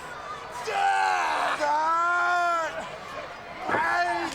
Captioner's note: wrestlers grunting